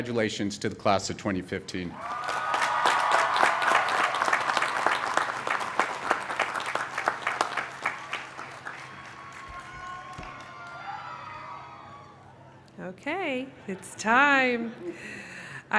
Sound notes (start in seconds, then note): 3.6 applause; 3.6 cheering